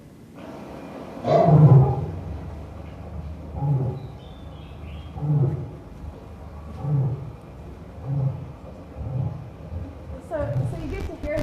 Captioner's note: low guttural sounds of cassowaries